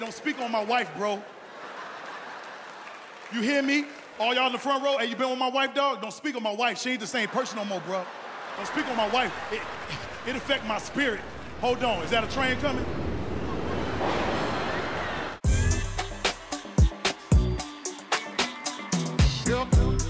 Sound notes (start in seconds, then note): 13.6 train passing